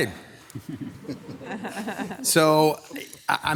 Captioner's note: group laughs